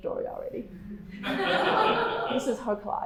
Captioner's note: laughing